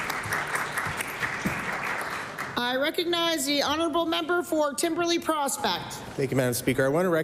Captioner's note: applause